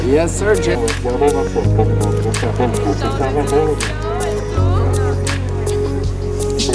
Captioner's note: boat Announcer Talking